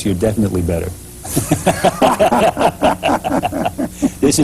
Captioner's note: laughter